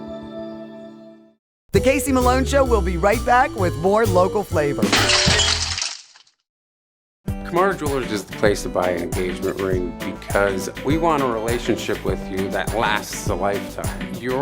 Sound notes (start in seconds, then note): 4.8 glass shattering